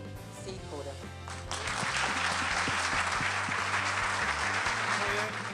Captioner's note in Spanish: Aplausos